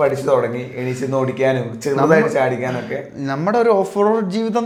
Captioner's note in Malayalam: തൊണ്ട ശരിയാക്കുന്നു